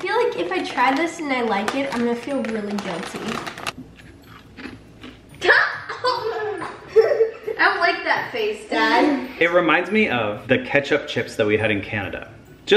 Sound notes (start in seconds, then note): 3.8 crunching noise; 5.4 boys laugh